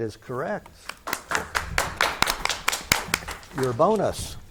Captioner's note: spectators clap